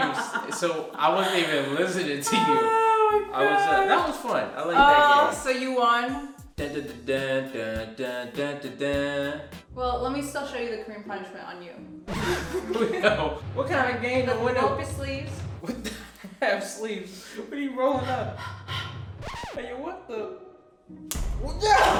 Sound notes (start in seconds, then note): 6.6 singing victory song; 18.0 breathes; 21.1 slap